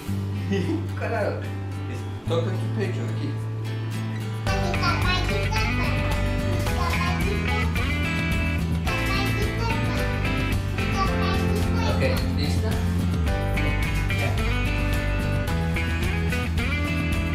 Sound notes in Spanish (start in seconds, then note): 8.8 riendo